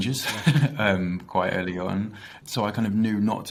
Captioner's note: laughs